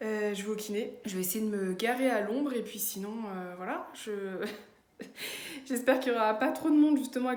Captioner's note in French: rire